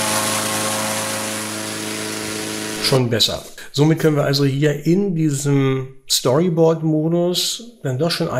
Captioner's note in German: Gebläsegeräusch